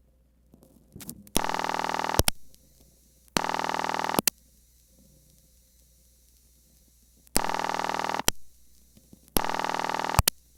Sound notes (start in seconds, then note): 1.2 ringback tone; 7.4 ringback tone